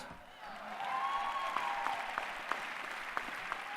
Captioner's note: applause